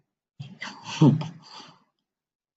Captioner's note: laughs